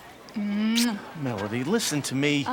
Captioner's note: lips smack